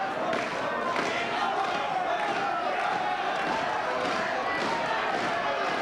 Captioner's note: spectators clapping rhythmically